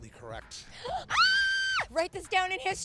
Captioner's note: screams